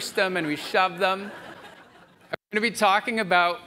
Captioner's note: audience laughs